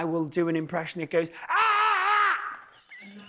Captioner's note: shouting; laughs